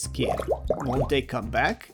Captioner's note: fart bubbles